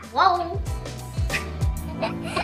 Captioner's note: baby giggling; soft chuckle